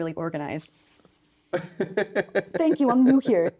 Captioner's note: laughing